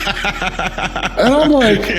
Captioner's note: laughs